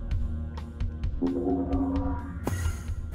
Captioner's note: gate opens